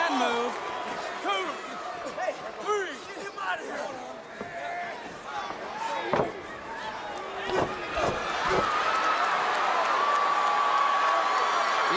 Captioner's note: crowd cheering